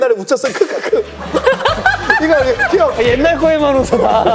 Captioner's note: hahahahahaha